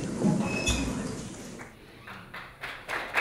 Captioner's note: clapping